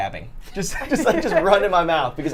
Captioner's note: Safiya laughs